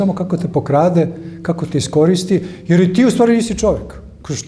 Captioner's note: none